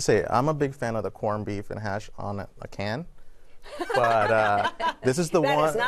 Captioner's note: laughter